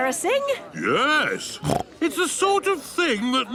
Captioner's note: snorts